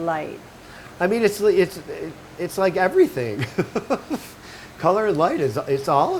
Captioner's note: laughing